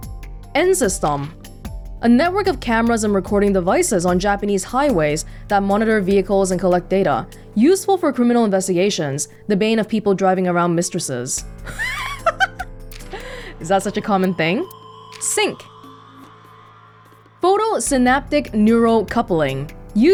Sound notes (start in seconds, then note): 11.6 chuckles